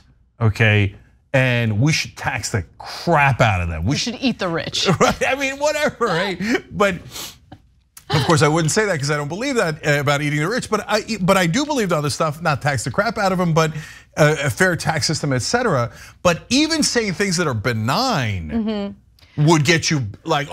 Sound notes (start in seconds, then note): 5.3 laugh